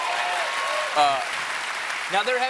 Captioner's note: applause